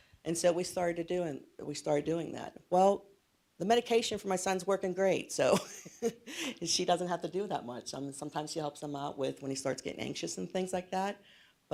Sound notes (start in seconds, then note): 5.5 laughs